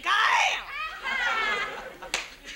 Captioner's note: audience laughs